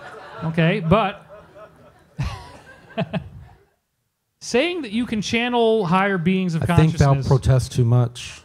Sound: laughs

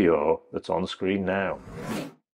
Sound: graphics whooshing

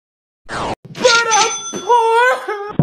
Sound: sobbing in poorness

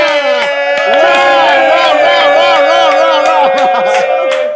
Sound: sound of cheering

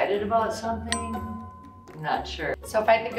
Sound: bell dings

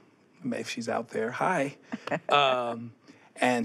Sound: chuckles

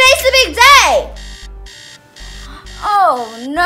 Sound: alarm-clock noises

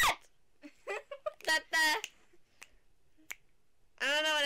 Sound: weird Singing; laughter; snapping Fingers

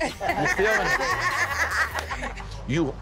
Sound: all laughing

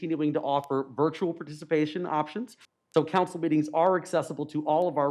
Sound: audio cutting in and out

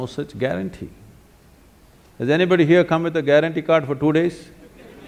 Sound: laughter

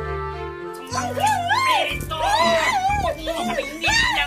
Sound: woman shrieking

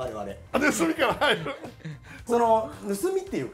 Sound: is laughing

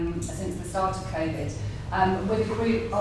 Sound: none

